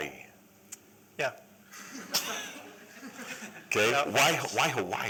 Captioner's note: laughter